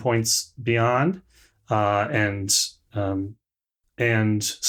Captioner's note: none